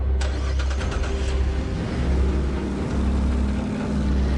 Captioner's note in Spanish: Ruido del motor